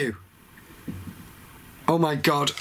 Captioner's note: gentle thudding